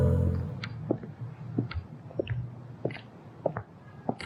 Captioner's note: footsteps